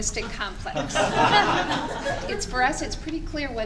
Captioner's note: laughing